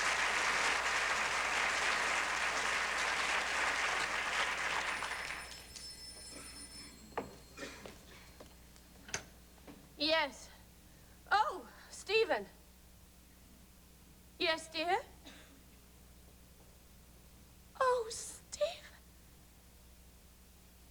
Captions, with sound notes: ( applause ) ( phone rings ) Yes. ■■ Oh, Stephen. Yes, dear. Oh, Stephen!